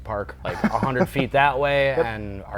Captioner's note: laughs